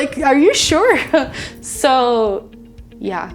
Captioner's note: laughs